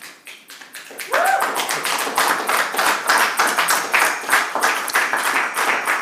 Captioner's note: public clapping; public cheering